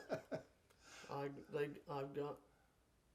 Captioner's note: chuckling